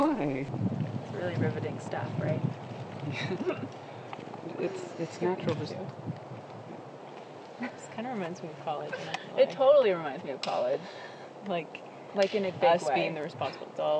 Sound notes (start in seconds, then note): 3.0 chuckling